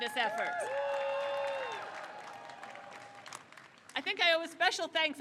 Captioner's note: crowd cheers